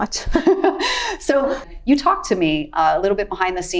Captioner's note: chuckles